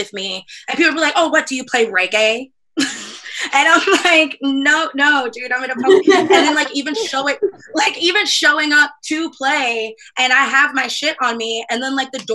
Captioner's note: laughs